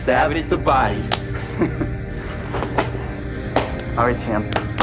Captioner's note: laughs